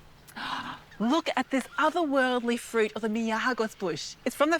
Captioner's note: gasps